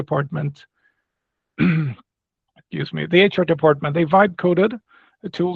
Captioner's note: clears throat